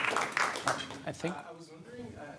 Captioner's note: audience applauding